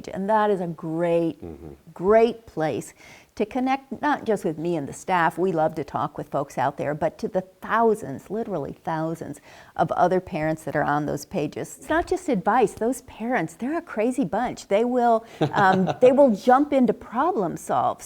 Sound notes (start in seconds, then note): 15.3 laugh